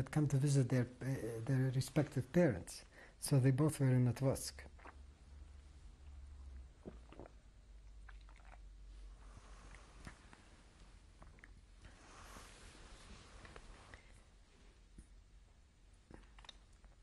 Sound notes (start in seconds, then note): 6.8 drinks